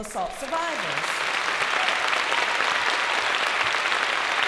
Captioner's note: applause